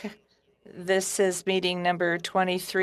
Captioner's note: speaking French